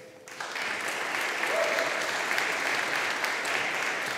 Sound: audience applauding

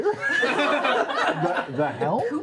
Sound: laughter

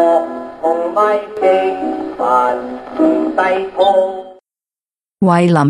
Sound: needle skipping

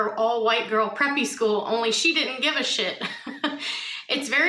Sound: chuckles

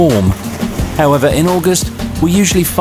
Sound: water splashing

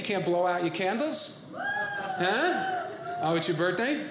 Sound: audience cheering

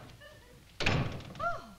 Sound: door closing shut

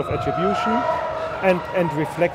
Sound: audience cheering

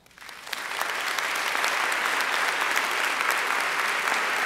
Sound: audience applauding

